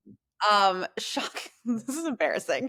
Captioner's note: laughs